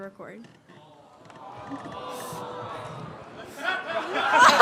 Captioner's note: audience: awwww; laughter growing